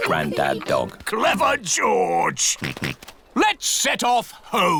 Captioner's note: snorts